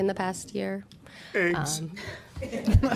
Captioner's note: laughter